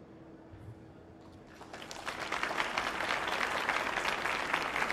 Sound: audience applauding

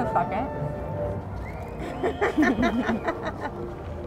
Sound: laughs

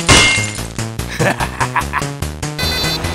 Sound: laugh evily

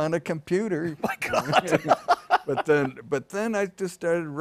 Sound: laughter

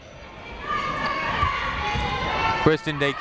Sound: people shouting in the crowd

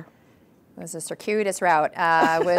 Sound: laughing

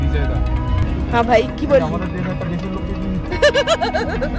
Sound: laugh

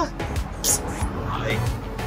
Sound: smacks lips

